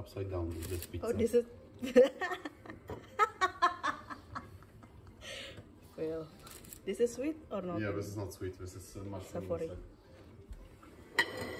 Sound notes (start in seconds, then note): 1.9 laughing